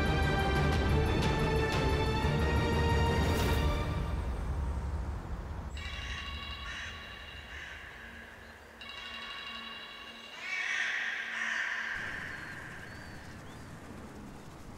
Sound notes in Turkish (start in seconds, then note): 5.8 Telefon çalıyor